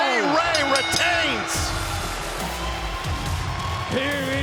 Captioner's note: upbeat music begins; bell dings